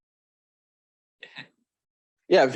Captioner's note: chuckles